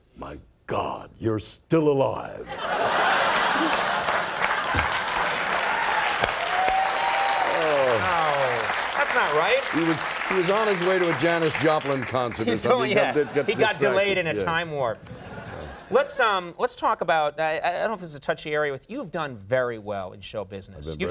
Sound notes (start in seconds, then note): 2.4 audience laughing; 2.8 audience applauding; 6.5 audience cheering